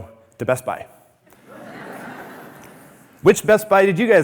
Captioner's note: audience laughing